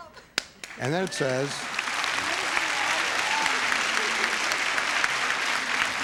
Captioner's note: audience applauding